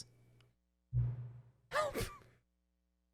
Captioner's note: laughs